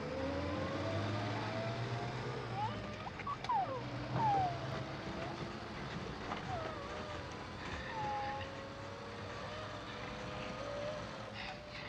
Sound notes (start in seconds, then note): 2.5 Sally whimpers; 6.2 muffled crying